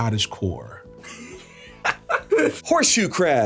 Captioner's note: laughing